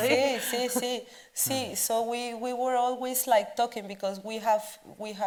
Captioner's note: speaks Spanish